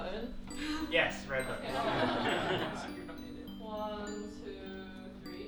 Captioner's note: people laughing